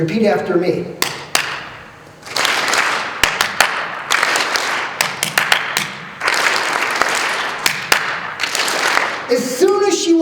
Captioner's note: clapping in patterns with audience responding with same patterns